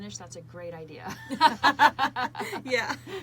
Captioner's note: both laughing